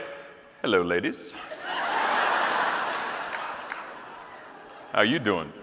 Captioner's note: audience laughing